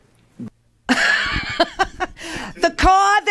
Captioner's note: laughs